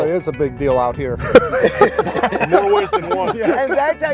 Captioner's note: laughing